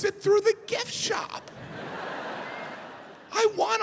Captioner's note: audience laughing